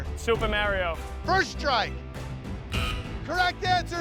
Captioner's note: buzzer sounds